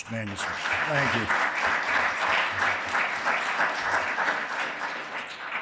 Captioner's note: audience applauds